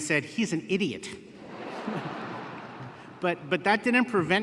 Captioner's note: laughter